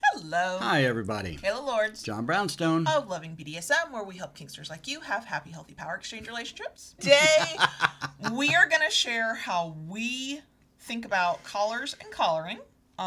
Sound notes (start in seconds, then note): 7.0 chuckling